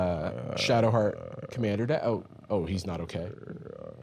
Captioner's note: growling; continues growling